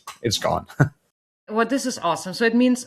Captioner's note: chuckles